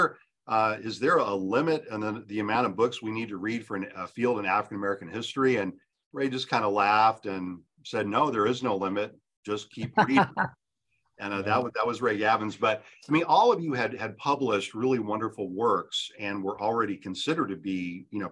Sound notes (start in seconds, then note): 9.8 laughs